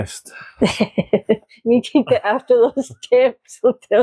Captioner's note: unicorn Laughs